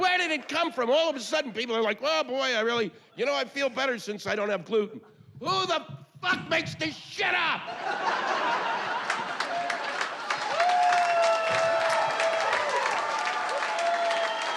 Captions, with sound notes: Where did it come from? All of a sudden, people are like, "Oh boy, I really... you know, I feel better since I don't have gluten." [yelling] Who the fuck makes this shit up? [cheers and applause]